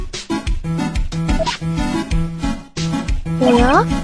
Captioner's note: swish